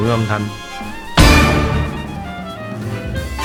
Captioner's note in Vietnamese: tengggggggggggg